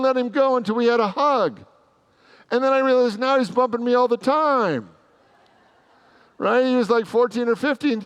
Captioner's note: congregants laugh